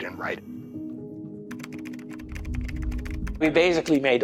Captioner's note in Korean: 타자 소리